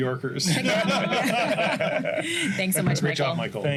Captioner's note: laughter